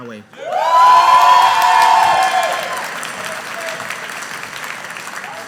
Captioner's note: audience applauding